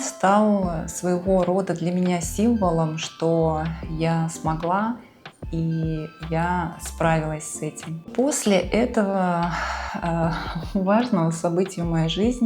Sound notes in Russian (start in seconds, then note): 9.5 вздыхает